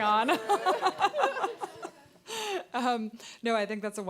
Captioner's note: audience laughing; laughing